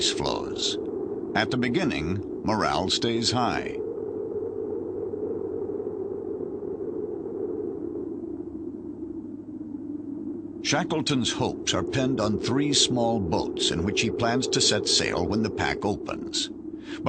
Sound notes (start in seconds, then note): 8.2 wind blows sound